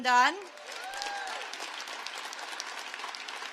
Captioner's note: applause